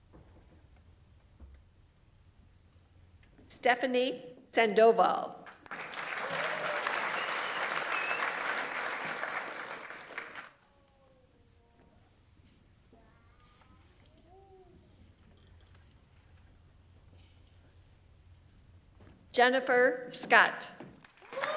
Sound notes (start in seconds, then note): 5.4 audience applauds; 6.2 audience member cheers